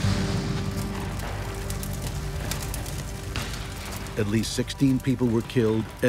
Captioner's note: explosion